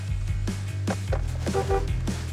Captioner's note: horn honks